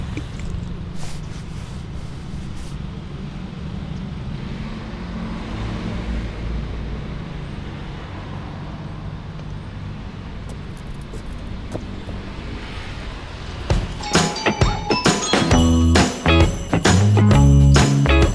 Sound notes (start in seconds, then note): 0.0 paint brush dipping in paint; 0.9 brush strokes; 4.2 car passing; 10.4 footsteps